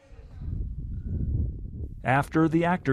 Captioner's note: wind whooshing